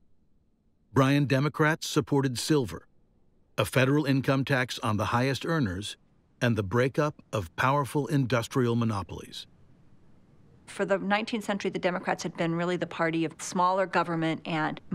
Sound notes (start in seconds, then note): none